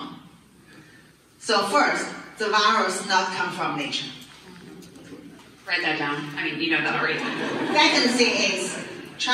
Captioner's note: people laughing